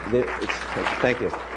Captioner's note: applause